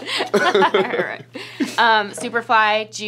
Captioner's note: laughing